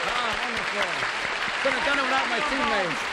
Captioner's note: applause